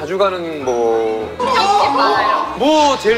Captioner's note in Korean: 시끌벅적